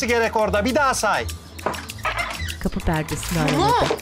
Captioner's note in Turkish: Kapı gıcırdama sesi; Kapı açılma sesi